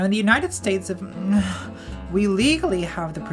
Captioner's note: groans; laughs